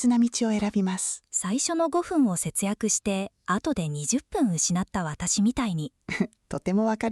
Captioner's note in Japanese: ごふん